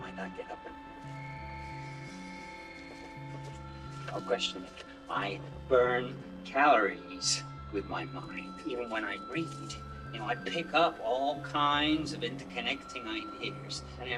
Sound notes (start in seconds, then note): 1.4 paper wrapper rustling